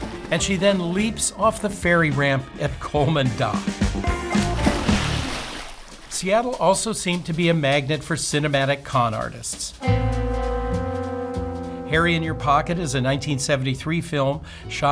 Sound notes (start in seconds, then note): 4.5 water splashing